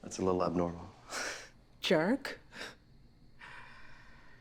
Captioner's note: laughs